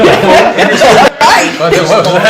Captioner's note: laughter